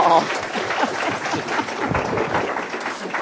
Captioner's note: applause